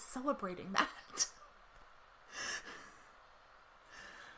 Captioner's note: laughs